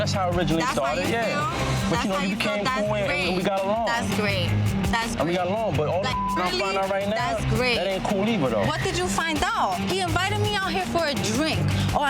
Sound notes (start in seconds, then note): 6.0 beep